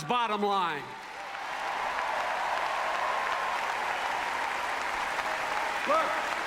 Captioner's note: applause